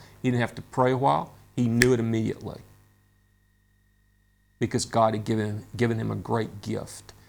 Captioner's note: snaps fingers